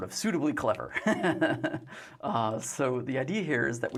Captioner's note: laughs